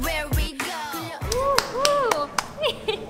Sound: clap clap

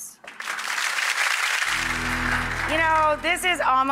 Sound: audience clapping

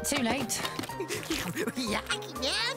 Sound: giggles and slurps

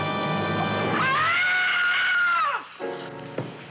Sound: screaming; tense music

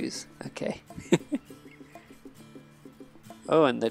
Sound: laughs

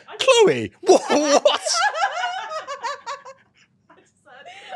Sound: many laugh

